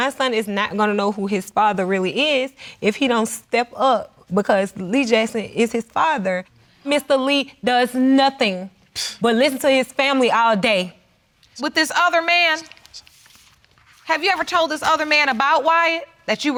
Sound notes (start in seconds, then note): 9.2 scoffs